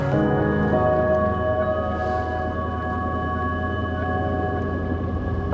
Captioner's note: vehicle rumbling